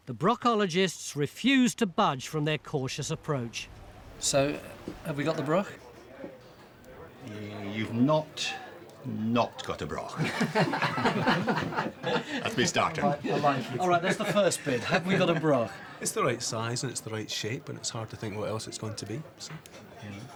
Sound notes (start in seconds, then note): 10.1 laughing